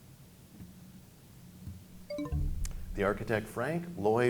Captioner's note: bell chimes, time expires